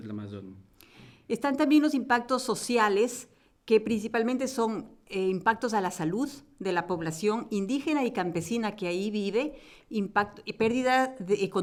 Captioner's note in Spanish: Español